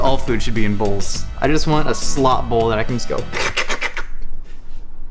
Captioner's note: slurp